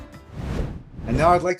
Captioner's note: graphic whooshes